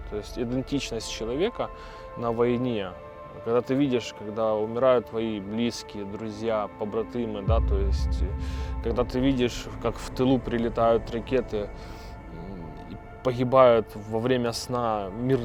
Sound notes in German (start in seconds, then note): none